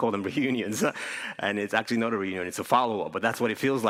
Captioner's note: laughs